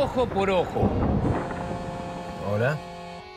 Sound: phone vibrating

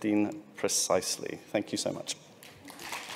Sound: applause

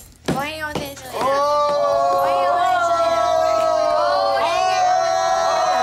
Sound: group exclaiming

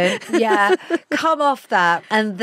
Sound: Giovanna laughs

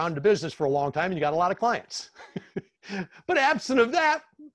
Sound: laughs

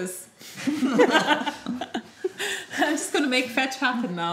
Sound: group laughing

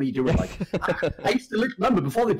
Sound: laughs

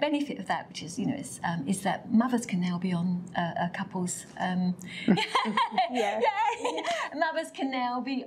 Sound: laughs

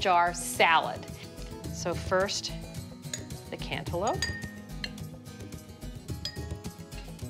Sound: glass clinking

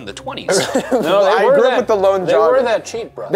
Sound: laughs

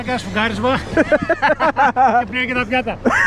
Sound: laughs

